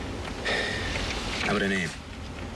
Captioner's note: sighs